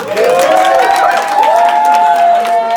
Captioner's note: cheers